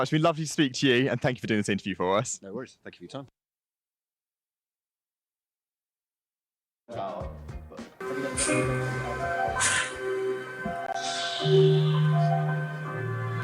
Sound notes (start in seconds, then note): 6.9 upbeat music; 9.6 air whooshing